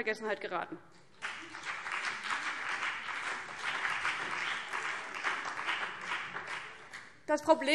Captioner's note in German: Beifall CDU und BÜNDNIS 90/DIE GRÜNEN